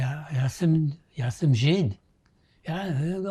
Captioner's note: non-english